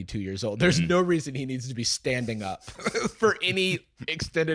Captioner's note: laughs